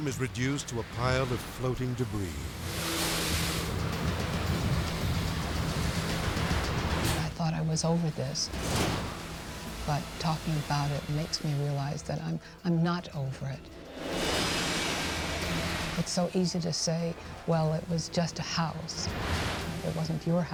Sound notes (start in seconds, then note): 2.4 edgy dramatic music; 2.4 waves ripping; 8.6 waves exploding; 13.9 edgy dramatic music; 18.9 edgy dramatic music